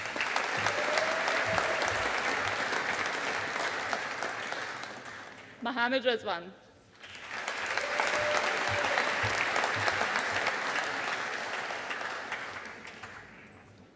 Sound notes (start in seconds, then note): 0.0 audience applauding; 7.0 audience applauding